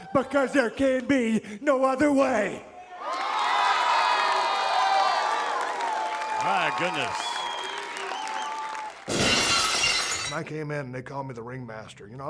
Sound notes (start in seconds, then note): 3.0 audience applauds and cheers; 9.0 glass shatters